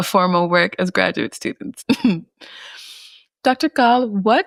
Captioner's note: chuckles